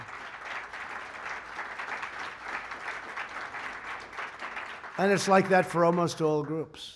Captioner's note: applause